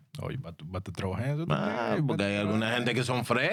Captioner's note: speaking In Spanish